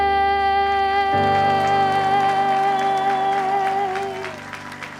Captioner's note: audience applauding